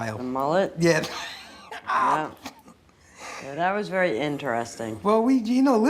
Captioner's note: laughs